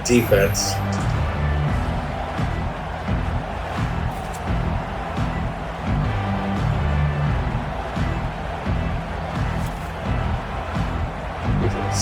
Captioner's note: crowd Noises